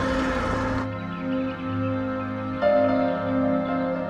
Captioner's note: birds chirping